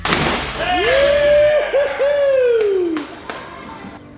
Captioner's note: debris thud; men exult; applauds